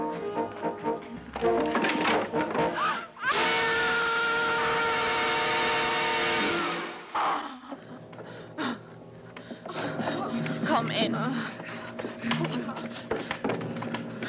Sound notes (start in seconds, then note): 2.8 women screaming; 7.2 women groaning; 11.3 slow dramatic music